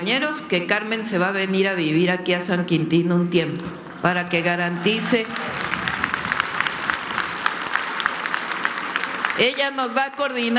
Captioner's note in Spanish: aplausos